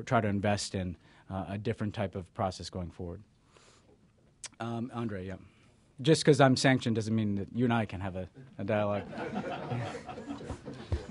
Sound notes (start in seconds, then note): 8.9 laughter